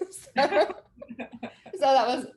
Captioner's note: both chuckles